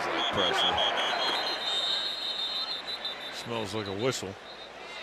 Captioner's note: whistle blows